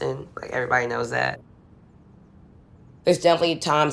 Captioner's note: none